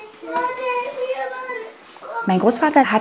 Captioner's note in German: Kind quengelt